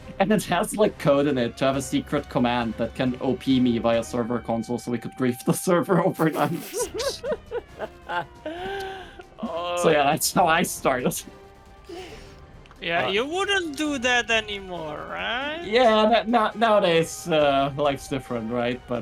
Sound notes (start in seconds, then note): 6.1 laughing; 11.4 laughs; 11.9 wheeze-laugh